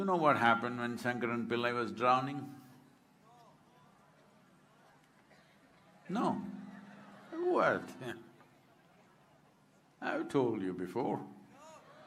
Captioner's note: laughter